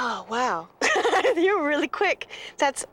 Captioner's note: laughs